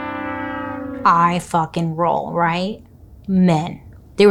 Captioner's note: horn blares